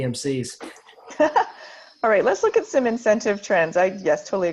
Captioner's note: laughs